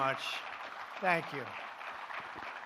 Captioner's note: applause